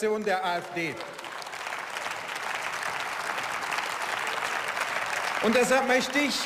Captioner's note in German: Beifall